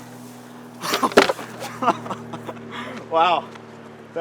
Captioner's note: laughing